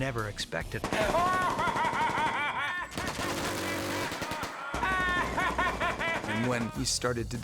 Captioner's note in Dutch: handmatig lachen; kanonnen aan het vuren